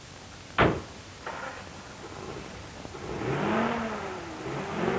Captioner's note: car engine starts